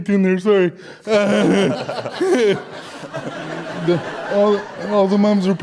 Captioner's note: audience Laughter